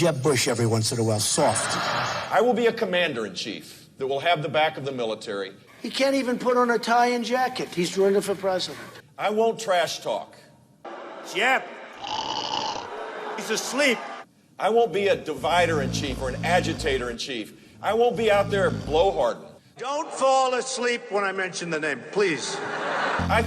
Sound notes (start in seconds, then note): 1.4 crowd laughing; 12.0 mimicking snoring; 12.6 crowd booing